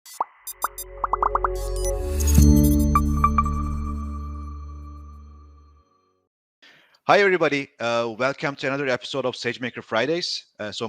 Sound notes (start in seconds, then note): 0.5 dynamic music; 1.0 bubbles popping